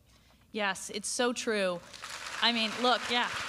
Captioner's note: applause